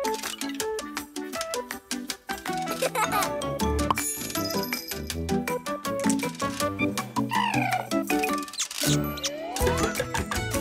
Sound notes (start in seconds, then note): 2.6 giggles; 6.8 chirping